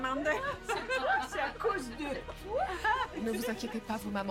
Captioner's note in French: rires